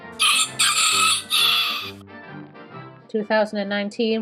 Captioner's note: rooster crows